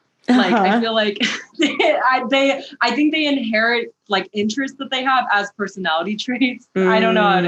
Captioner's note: laughs